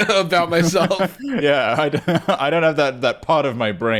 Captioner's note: laughing